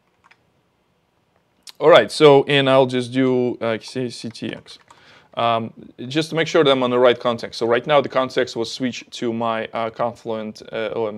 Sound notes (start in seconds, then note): none